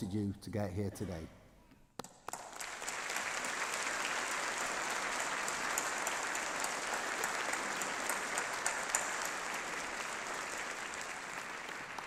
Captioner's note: appause